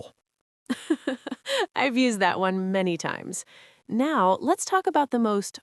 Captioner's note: giggles